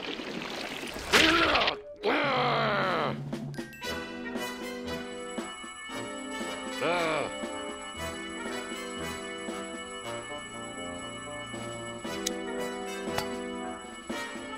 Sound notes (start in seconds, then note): 2.0 grunts; 2.1 growling; 6.8 grunts